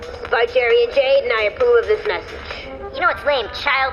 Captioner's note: playback start sound